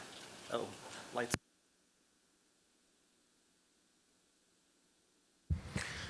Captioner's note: audio out